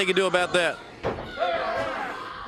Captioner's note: crowd chatter